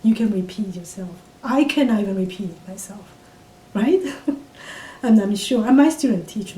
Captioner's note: laughs